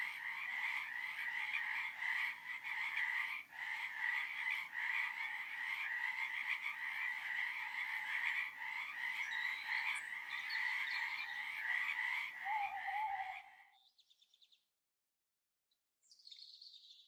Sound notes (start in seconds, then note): 8.5 birds chirping; 12.3 owl hooting